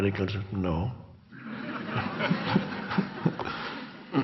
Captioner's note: crowd laughs